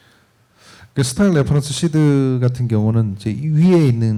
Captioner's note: speaking korean